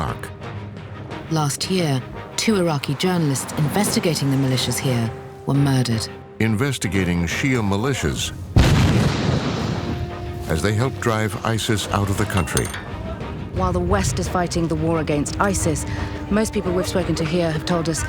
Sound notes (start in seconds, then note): 8.6 explosion